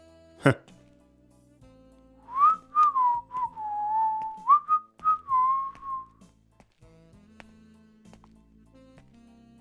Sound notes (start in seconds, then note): 2.2 whistling